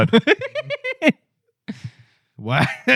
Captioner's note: laughter